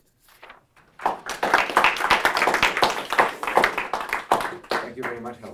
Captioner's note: applause